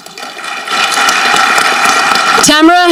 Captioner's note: audience clapping